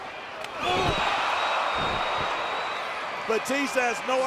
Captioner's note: audience cheering